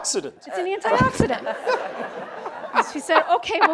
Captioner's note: audience laughs